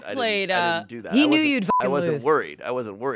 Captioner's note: beep